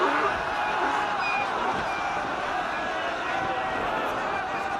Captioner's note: donkey brays; all laughing